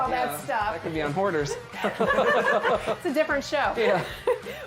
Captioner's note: laughter